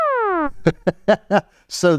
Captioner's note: laughs